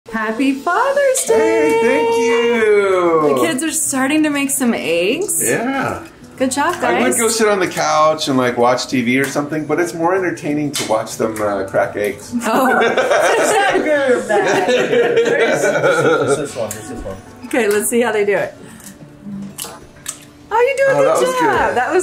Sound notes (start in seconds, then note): 12.4 laughing